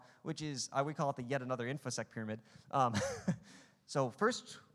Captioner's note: laughing